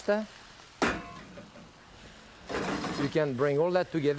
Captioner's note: pan shaking